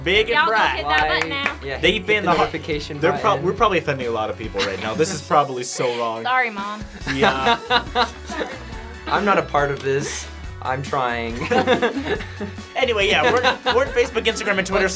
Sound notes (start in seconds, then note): 7.0 laughing